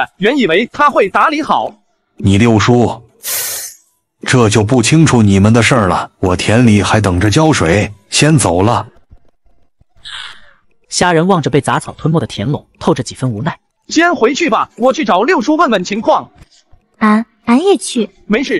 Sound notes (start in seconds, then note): 3.2 tsk